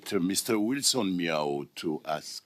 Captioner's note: speaking French